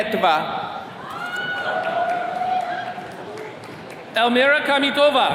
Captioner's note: attendees cheering